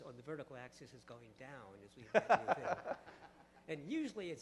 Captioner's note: laughter